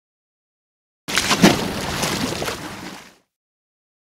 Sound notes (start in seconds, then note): 1.0 sound of water